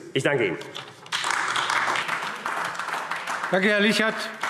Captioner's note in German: Beifall AfD